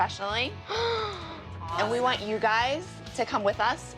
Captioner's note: gasps